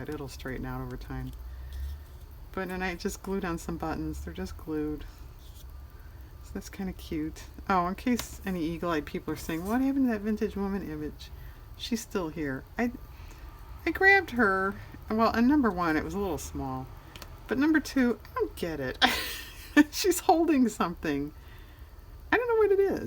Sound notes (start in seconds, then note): 19.0 aughs